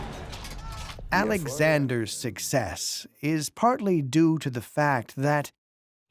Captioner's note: in German